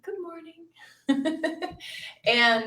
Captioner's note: laughs